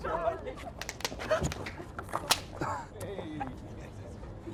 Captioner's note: laughter; popping